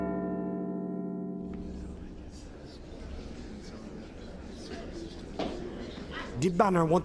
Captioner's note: Big Ben chiming; general chatter